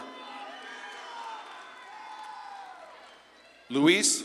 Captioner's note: audience claps and cheers